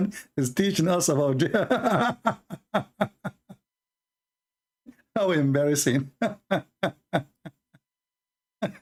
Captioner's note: Ketawa